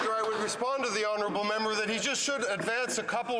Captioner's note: some Applause